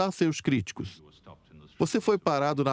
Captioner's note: voiceover